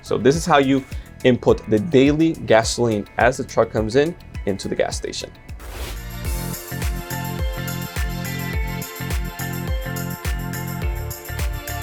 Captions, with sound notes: So this is how you input the daily gasoline as the truck comes in into the gas station. (air whooshes) (upbeat music)